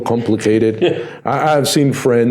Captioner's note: laughing